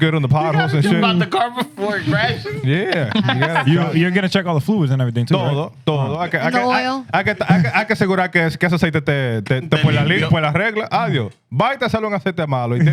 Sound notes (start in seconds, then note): 6.2 speaking Spanish; 8.6 speaking Spanish